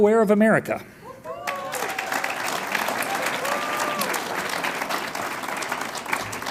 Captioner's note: audience cheers and applauds